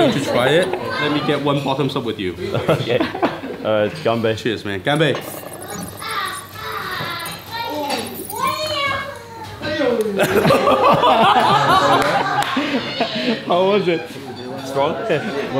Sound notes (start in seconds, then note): 10.2 laughing